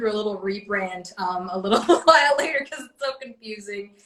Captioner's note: laughs